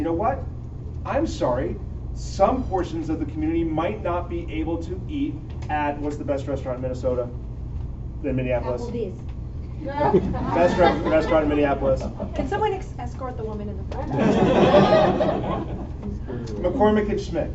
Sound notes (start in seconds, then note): 10.0 laughter; 14.1 laughter